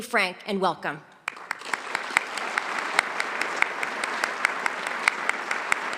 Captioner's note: audience applauding